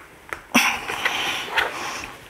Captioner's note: she groans